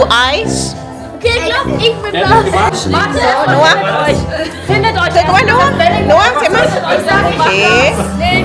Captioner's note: speaking German